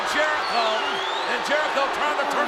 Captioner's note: audience cheers